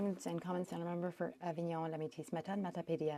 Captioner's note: speaking French